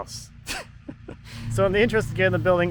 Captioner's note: laughing